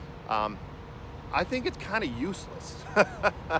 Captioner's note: laughs